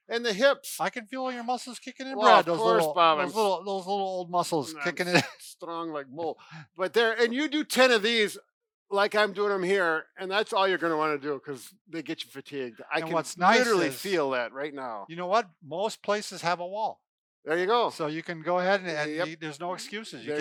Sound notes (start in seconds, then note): 4.7 laughs